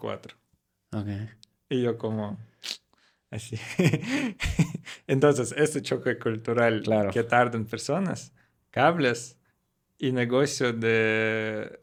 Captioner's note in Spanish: Risas